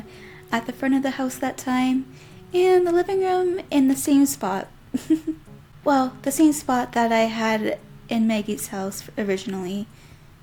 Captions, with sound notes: ...at the front of the house that time and the living room in the same spot. [giggles] Well, the same spot that I had in Maggie's house originally.